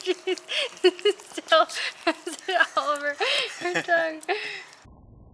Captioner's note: can't talk because she's laughing too hard